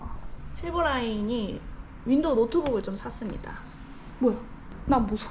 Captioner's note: beep